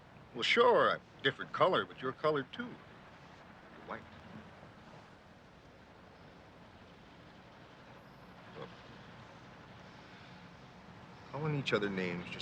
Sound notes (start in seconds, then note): none